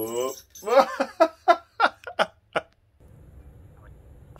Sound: laughs

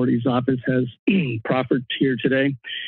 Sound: clears throat

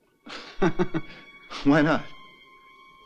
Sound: laughing

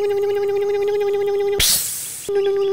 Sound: electric motor hum; hiss; electric motor hum

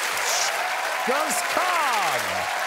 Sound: audience applauding

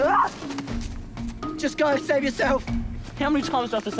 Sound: Rikki screams

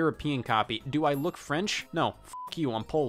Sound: beep

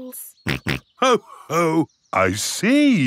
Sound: snorts

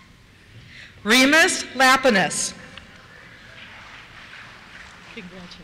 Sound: applause

